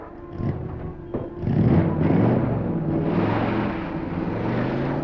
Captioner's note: car races out